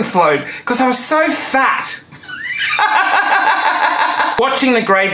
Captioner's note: laughing